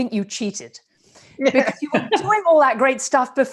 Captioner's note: chuckles